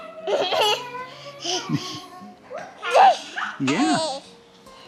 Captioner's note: laughs